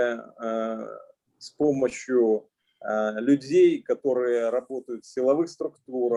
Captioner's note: speaking Russian language